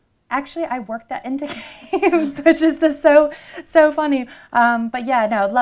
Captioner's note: laughter